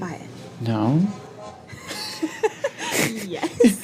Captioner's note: laughs